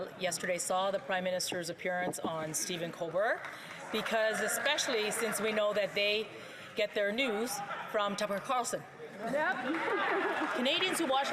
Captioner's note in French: voix de l'interprète